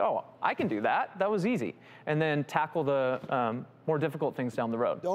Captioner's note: none